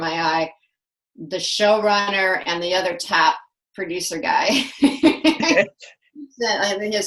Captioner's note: laughs